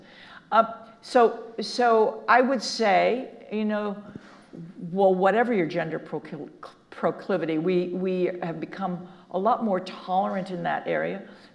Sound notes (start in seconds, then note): none